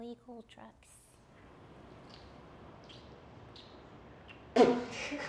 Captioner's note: silence